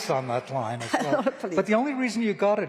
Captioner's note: laughter